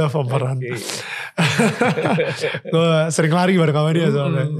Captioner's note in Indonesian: tertawa